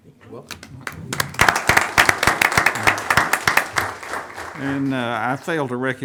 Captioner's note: audience applauding